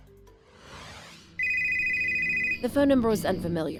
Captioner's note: phone rings